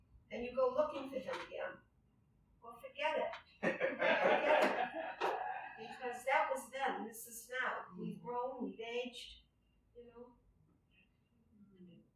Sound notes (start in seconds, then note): 3.6 laughter